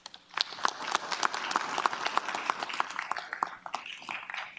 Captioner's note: applause